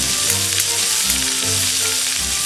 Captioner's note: sizzle~~~